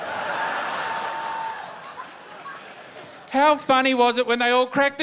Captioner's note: laughter